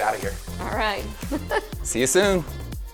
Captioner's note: laughs